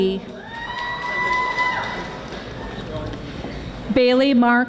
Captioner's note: audience applauding